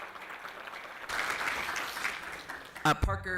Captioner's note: applause